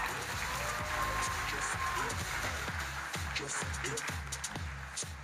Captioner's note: audience applauding